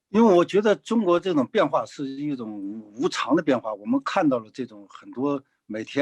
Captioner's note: speaking in foreign language